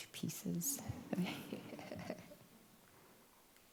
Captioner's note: laughs